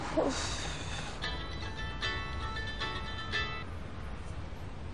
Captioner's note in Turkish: Telefon çalıyor